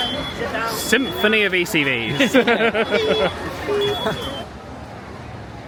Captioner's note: laughing